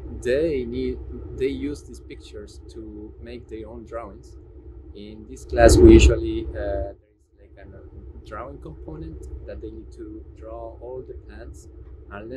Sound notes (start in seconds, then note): 6.9 voice muffling